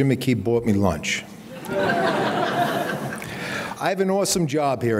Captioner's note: audience laughing